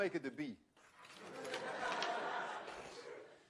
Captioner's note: laughter